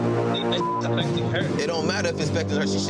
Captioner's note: beep